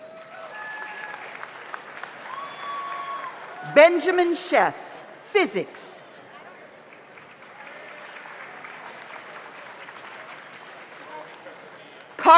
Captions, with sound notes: (audience applauds) (audience cheers) Benjamin Sheff, Physics. (audience applauds)